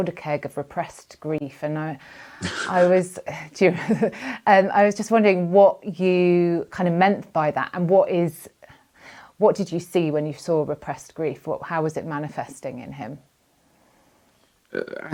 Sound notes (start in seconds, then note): 2.4 chuckles